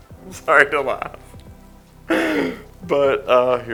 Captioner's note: gasps